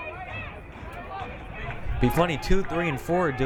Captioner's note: crowd cheering